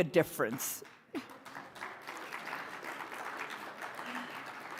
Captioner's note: audience applauding